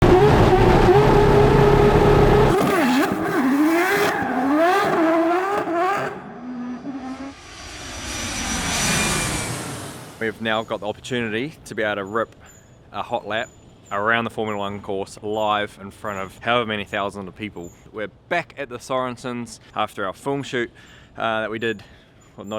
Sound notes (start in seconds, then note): 0.1 race car revving; 6.1 airplane whooshing